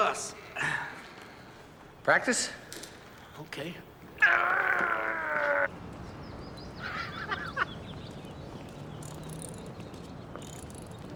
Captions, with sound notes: So why would an ultimate fighter want to kill us? Practice? Okay. (grunting) (Bridges laughing)